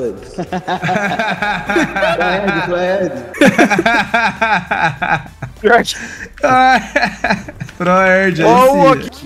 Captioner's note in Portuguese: risos